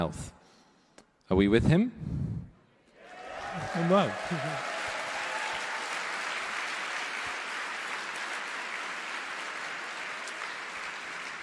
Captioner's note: cheering/Applause